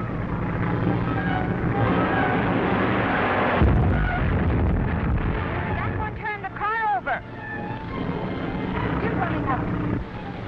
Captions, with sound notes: (explosion booming) - That one turned the car over! Jim's running out!